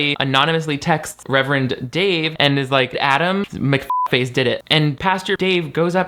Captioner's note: beep